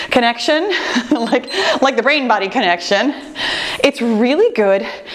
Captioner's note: timer beeps